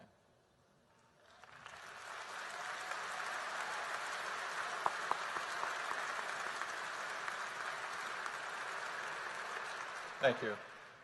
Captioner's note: applause